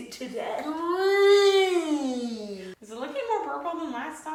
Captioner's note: whines